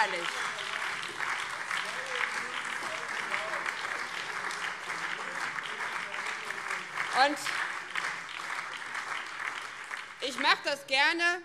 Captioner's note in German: Beifall BÜNDNIS 90/DIE GRÜNEN